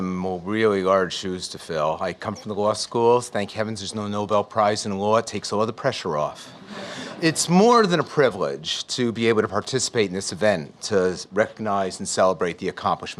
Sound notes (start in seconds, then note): 6.4 audience Laughs